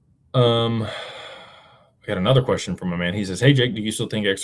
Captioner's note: sighs and gasps